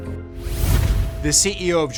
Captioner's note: logo whooshes